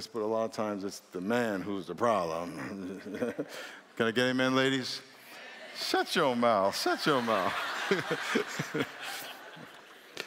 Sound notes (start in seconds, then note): 6.9 laughter